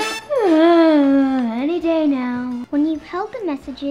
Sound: sighs

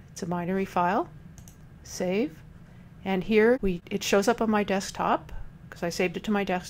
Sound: click

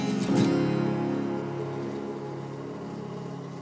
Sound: bright acoustic music; bees buzzing

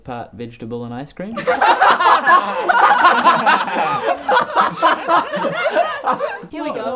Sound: all laugh

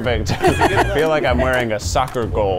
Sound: laughing

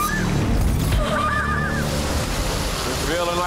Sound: water rushing; shrieking

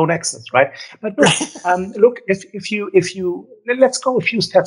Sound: laughs

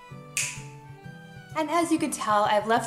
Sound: snapping

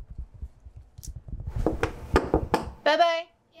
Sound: knocks

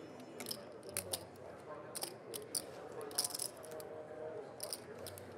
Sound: rattling of poker chips

